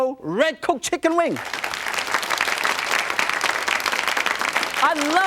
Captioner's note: audience clapping